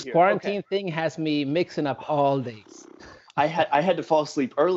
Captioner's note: laughs